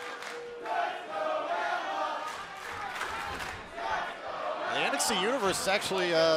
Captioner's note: fans chanting